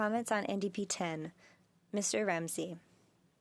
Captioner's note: speaking French